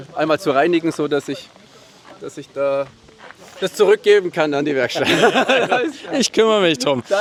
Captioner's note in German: gelächter